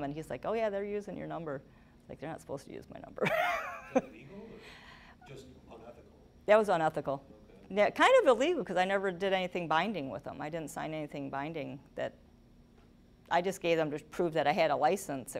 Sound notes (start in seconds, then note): 3.2 laughing